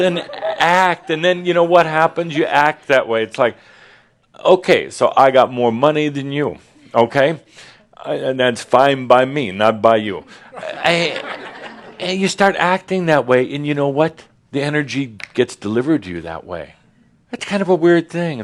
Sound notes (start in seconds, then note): 10.2 more chuckles